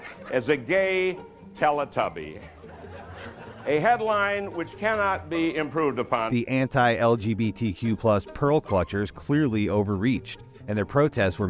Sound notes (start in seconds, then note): 0.0 audience chuckles; 2.4 audience chuckles